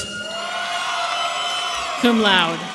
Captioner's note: audience cheering